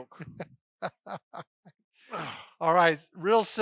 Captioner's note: laughing